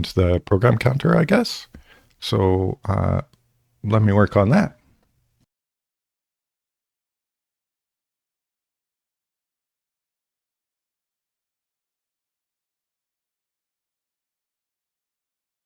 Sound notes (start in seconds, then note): 6.8 silence